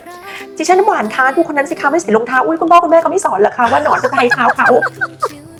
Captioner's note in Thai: เสียงหัวเราะ